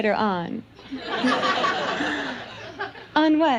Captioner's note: audience laughs